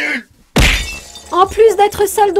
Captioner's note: glass break